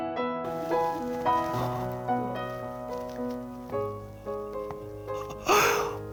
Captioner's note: crying into fists